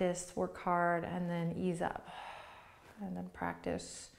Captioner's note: exhales breath